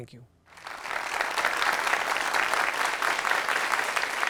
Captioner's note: audience applauding